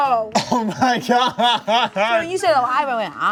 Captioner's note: laughs